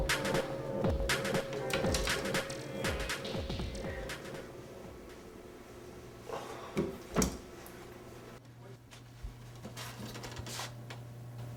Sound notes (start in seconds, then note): 6.7 locker door closes; 9.4 door creaks open